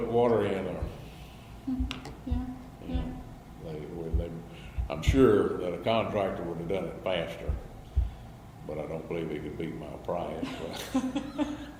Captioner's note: BOTH laugh